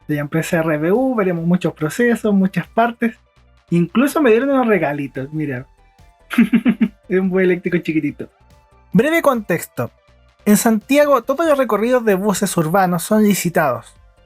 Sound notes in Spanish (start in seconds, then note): 6.3 risas